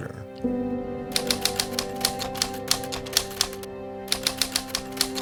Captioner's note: typewriter clicking